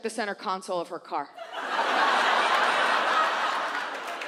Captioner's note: audience laughs